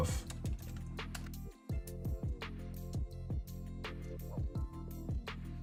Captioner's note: groovy music; typing